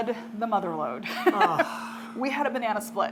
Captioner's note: sighing